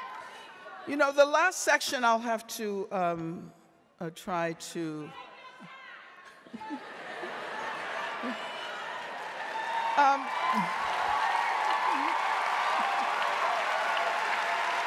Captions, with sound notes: You know, the last section I'll have to, or try to-- (audience member shouting) (audience shouting) (audience cheering and applauding)